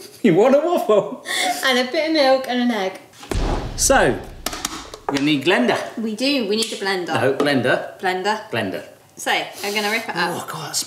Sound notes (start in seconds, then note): 3.2 thuds